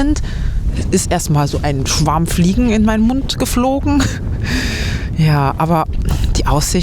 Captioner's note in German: gelächter